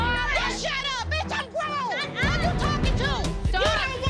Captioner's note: arguing